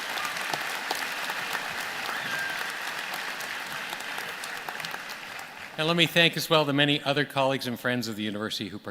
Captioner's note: applause